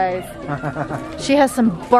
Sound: laughs

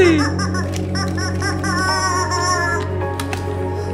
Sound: honking

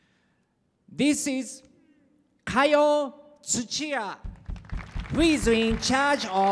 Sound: applause

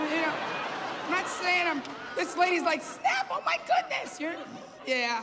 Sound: laughter

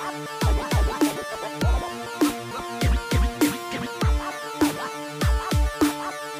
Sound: laugh

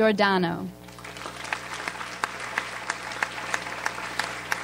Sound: audience applauds

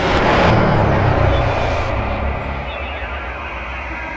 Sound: ship whirring

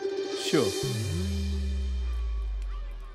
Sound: laughing

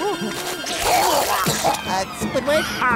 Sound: vomiting

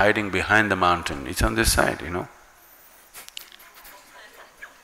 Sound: laughs

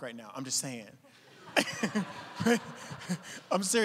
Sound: audience laughing; laughing

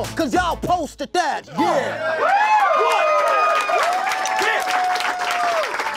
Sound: embarrassed laughter; cheering, clapping x12

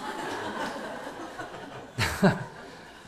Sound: audience laughs

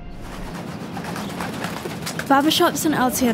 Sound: bird's wings flapping

